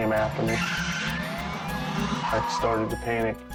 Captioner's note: tires squealing